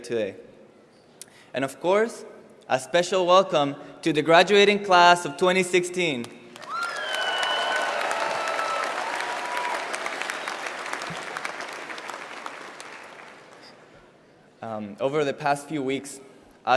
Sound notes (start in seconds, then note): 6.5 applause